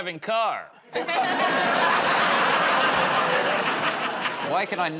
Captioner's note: laughter